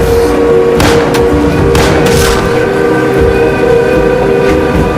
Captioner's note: guns firing